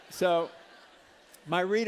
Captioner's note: laughter